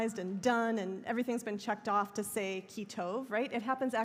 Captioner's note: hebrew